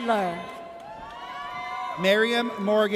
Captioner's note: audience cheers